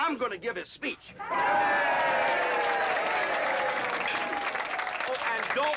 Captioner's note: audience cheering & applauding